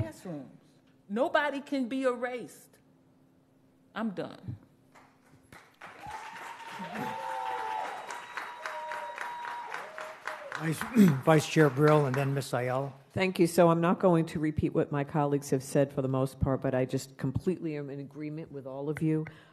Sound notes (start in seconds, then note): 11.1 cheers and applause